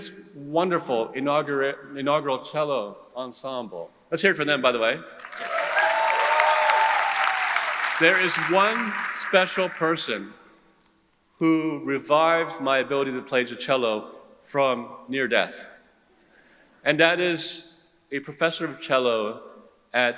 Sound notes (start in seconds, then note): 5.2 audience cheering; 5.2 audience applauding